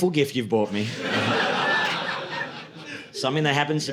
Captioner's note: audience laughing